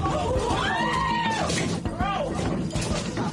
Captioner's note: screaming